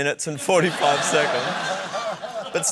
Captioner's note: laughter